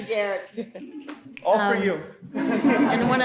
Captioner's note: audience chuckling